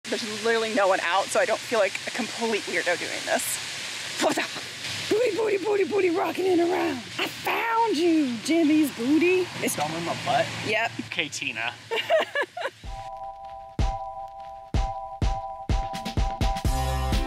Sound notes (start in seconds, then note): 13.7 laughing; 14.6 upbeat music